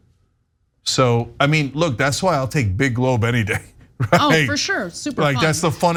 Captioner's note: laugh